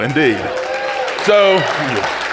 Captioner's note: audience cheering